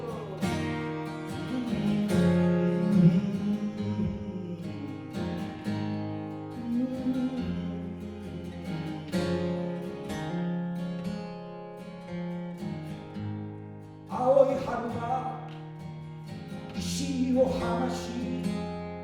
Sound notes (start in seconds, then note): 1.7 humming